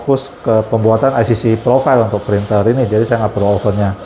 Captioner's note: printer machine noise